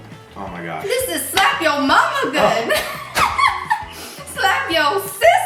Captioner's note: laughing